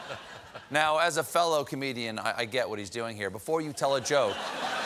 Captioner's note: laughter